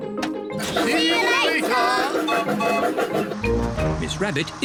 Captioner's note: laughs; toots whistle